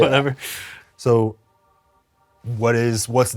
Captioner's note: both laugh